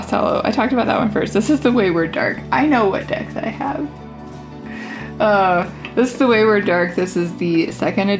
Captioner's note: sigh